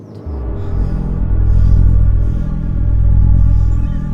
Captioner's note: threatening ambient music; A threatening electronic rumble; gasping, difficulty breathing